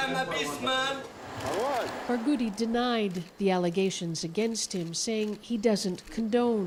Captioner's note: speaking alternate language